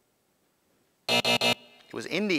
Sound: buzz

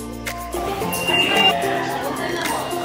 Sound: beeps

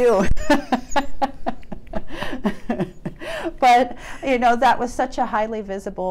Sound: laughs

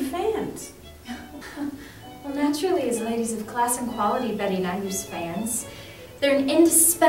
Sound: chuckles

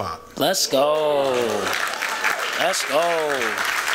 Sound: applause

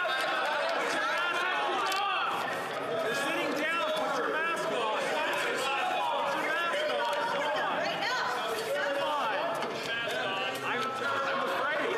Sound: yelling

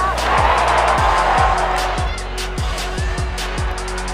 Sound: crowd cheering

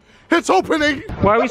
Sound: laughing

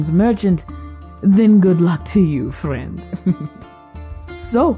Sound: giggle

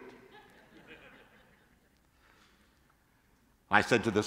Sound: congregation laughing

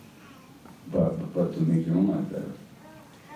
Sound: none

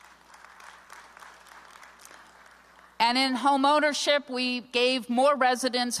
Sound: applause

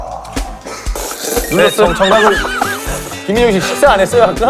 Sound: slurrp

